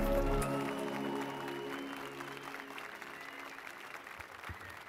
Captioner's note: applause and cheers